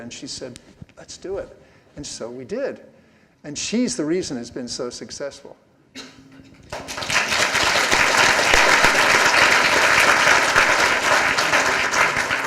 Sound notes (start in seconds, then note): 6.6 applause